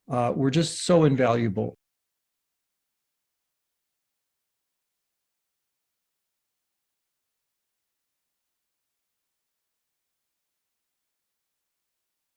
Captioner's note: silence